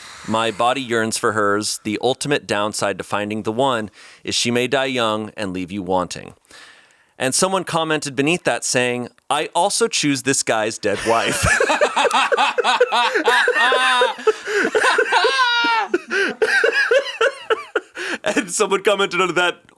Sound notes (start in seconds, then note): 10.9 all laughing